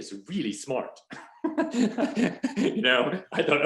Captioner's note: laughing